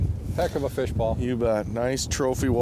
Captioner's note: voiceover